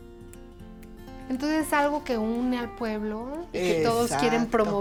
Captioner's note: speaking Spanish